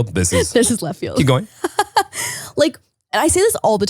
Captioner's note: laughs